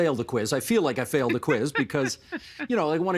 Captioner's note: laughter